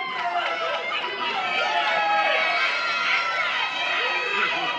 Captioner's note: cheering